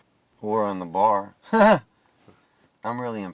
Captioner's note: Kester chuckling